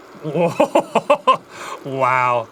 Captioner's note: laughing